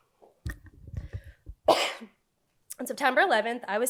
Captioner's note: coughs